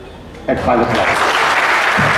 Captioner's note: applause